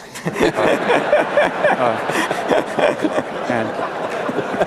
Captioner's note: laughter and applause